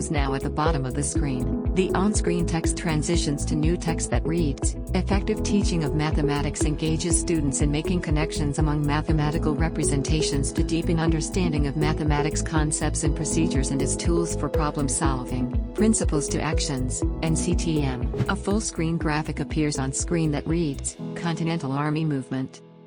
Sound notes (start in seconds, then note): 18.1 whoosh; 22.2 music fades